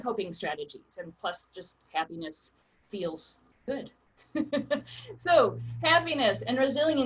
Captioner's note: laughs